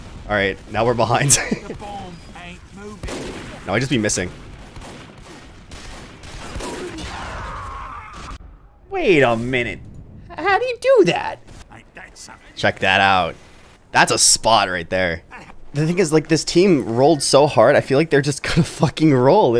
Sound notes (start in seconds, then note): 1.2 laughs; 4.8 guns firing; 6.9 man screaming